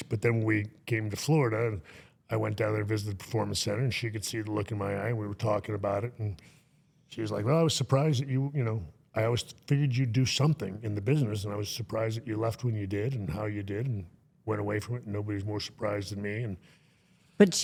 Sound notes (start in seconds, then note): none